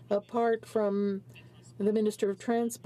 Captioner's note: speaking french